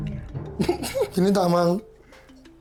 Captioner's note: laughs